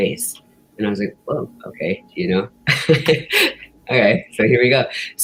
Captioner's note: giggles